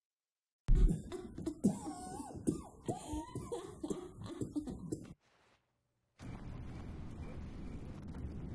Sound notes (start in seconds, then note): 1.6 Jason retches